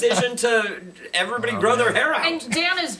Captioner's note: laughter